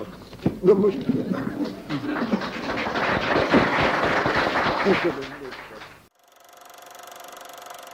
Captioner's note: applause